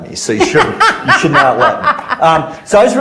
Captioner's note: laughs